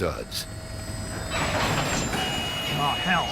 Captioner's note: rattling